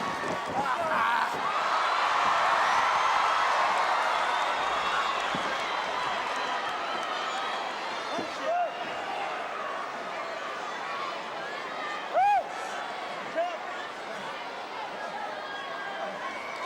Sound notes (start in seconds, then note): 0.9 audience cheering; 12.4 audience chattering